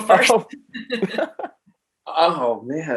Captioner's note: laughing